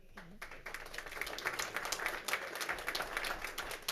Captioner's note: clapping